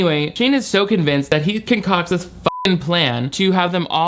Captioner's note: beep